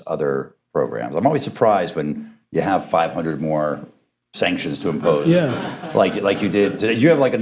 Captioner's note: laughter